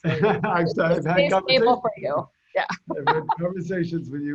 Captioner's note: laughs